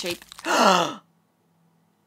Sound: gasp

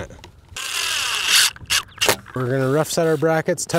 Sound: drill whirling

